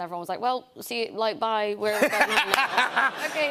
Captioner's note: laughter